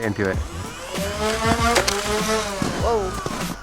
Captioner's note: gun motor